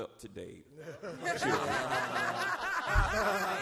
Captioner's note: all laugh